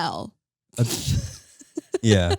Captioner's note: laughing